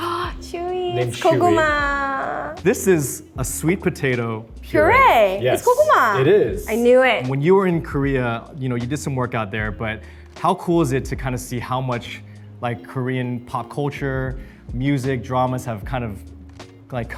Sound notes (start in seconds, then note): 0.1 Arden gasps